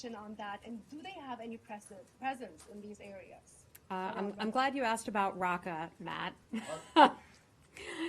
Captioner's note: laughter